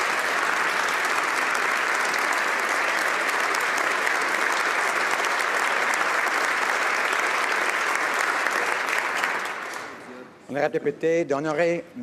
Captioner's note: applause